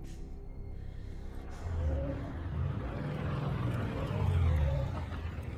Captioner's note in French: le moteur de la voiture rugit